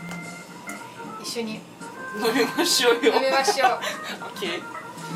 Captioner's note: laughing